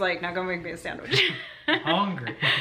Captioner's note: laughter